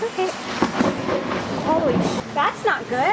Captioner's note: loud thunder clap